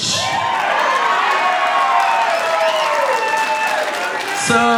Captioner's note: audience cheering; audience applauding